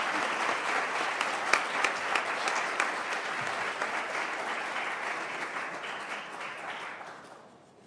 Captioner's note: applause